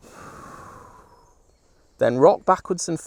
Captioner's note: breathes out